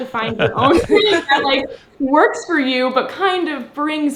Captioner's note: laugh